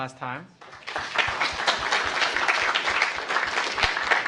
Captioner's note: applause